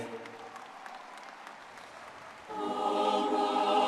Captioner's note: audience clapping and cheering